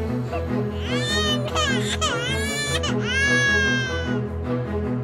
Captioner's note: crying